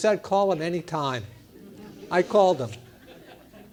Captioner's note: laugh